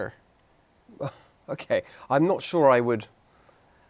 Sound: laughs

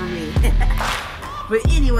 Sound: laughs

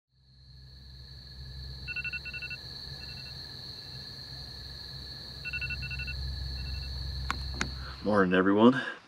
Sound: alarm Buzzing

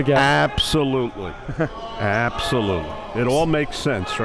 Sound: laughing

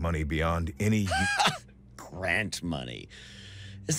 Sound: laughs

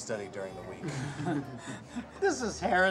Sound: laughing

